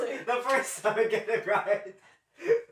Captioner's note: laughing